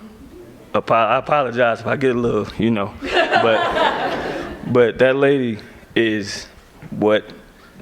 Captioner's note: laughter